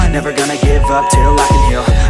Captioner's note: beep; upbeat music